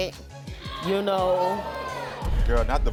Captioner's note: audience reacting